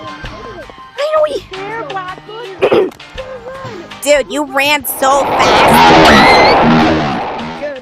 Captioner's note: screams